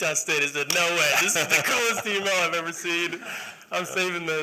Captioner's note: laughter